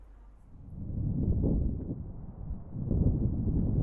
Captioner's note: thunder